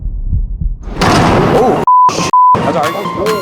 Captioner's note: heart beating; intense music; beep